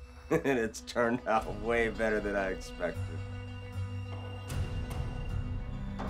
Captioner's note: laughing